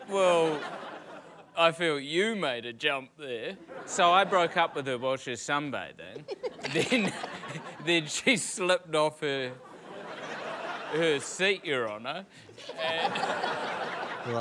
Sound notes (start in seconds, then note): 6.2 cracking up; 10.2 laughter; 12.5 laughter